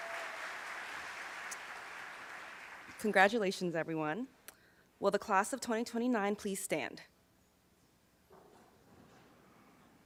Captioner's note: applause